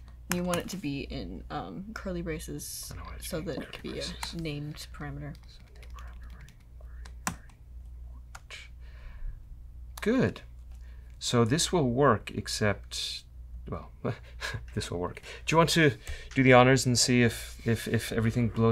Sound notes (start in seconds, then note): 5.3 whispering